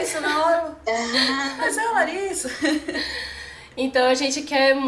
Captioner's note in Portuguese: risadas